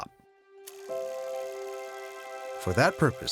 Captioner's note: camera whirring